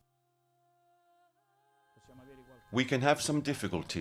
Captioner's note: speaking in foreign language; ethereal music